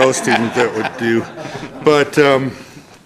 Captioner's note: laughter